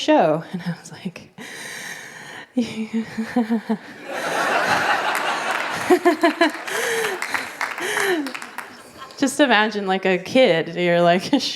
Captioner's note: nervous giggling; laughter